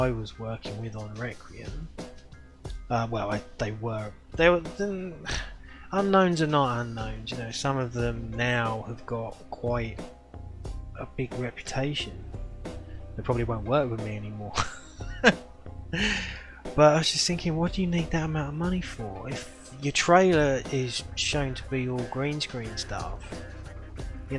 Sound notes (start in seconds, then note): 14.6 laughs